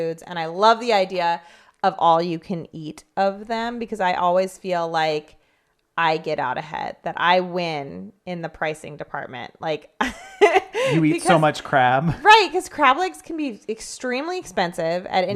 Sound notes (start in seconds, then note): 10.6 laughs